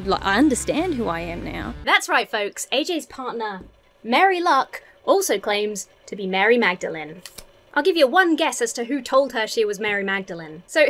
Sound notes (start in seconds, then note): none